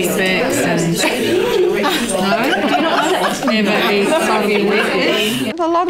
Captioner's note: audience chatter